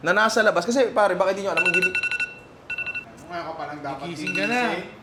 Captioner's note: alarm clock beeps